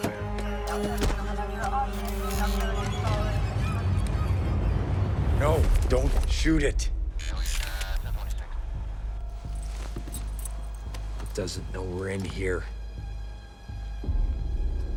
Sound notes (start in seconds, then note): 0.2 ominous music; 0.2 police radio chattering; 7.5 robot whirring